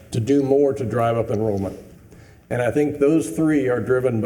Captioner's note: none